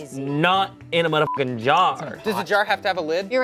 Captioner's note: beep